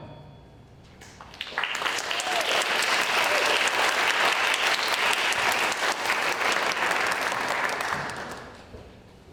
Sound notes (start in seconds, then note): 1.0 applause